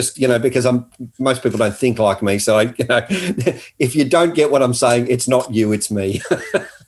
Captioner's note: laughing